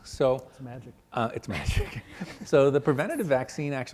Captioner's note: laughs